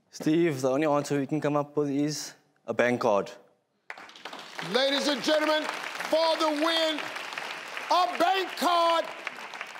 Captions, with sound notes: - Steve the only answer we can come up with is a bank card. (crowd clapping) - Ladies and gentlemen for the win a bank card.